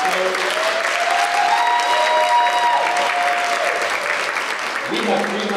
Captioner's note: cheering and Applause